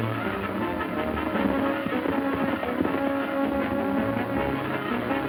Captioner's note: landslide rumbling